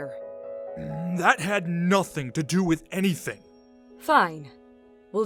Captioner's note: angry grumble